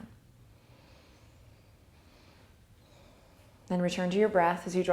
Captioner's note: deep breathing